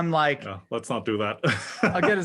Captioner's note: laugh